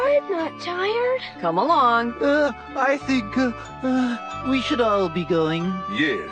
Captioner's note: yawns; yawns